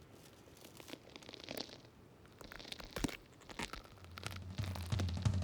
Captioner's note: joints crackling